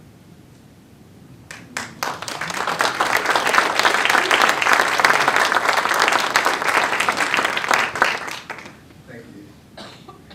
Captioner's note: applause